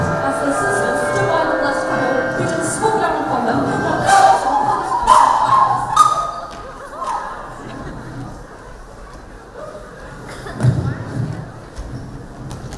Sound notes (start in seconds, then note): 5.0 screams